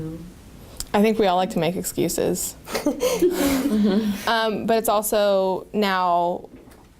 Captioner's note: laughter